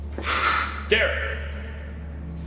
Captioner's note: gun cocking